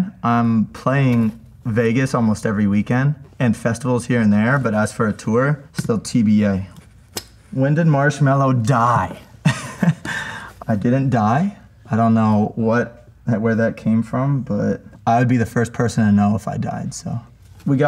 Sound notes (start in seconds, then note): 9.4 chuckles